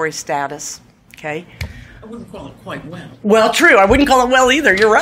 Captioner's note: laughs